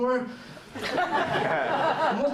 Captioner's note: laughter